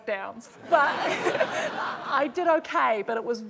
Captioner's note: laughter; chuckles